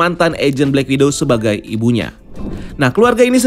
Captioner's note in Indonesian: suara transisi